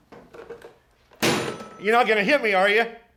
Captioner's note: slamming phone